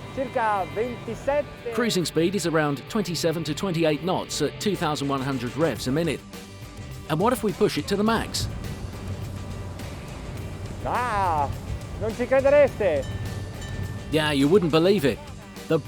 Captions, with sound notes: Cruising speed is around 27 to 28 knots at 2,100 revs a minute. And what if we push it to the max? (bell ringing) Yeah, you wouldn't believe it.